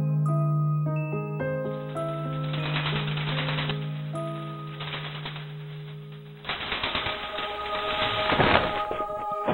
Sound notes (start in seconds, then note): 1.9 loud rattling